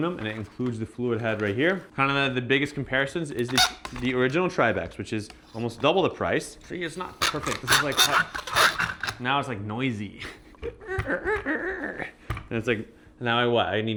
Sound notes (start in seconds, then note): 6.4 tripod squeaking; 10.7 imitates tripod squeaking